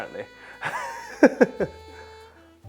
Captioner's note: chuckles